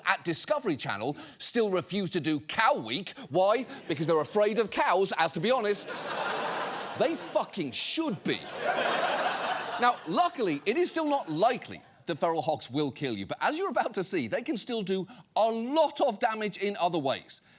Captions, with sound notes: at Discovery Channel still refuse to do Cow Week. Why? Because they're afraid of cows, as, to be honest, -they fucking should be. -(STUDIO AUDIENCE LAUGHING) Now, luckily, it is still not likely that feral hogs will kill you, but as you're about to see, they can still do a lot of damage in other ways,